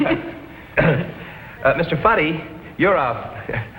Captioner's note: laughs; clears throat